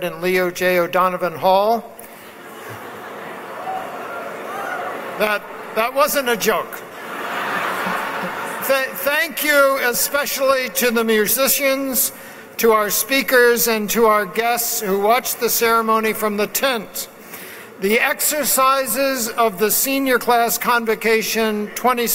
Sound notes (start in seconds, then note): 2.3 laughs; 6.8 laughs